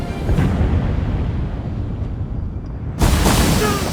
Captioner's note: rumbling